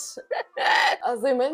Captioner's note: screeches